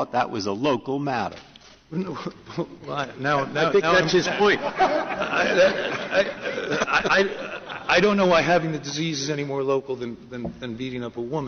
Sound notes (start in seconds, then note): 3.7 laughter